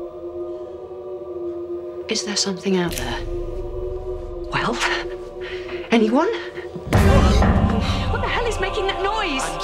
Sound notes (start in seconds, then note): 6.6 pounding